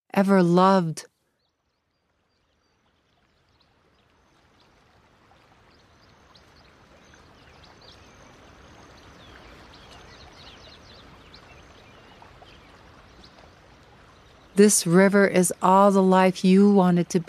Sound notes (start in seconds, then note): 2.1 sounds of water and birds slowly fade back in